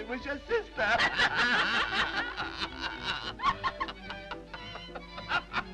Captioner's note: Mildred and Harry laugh